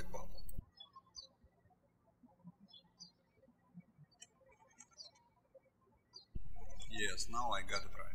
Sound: birds chirping

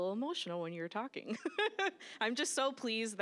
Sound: laughing

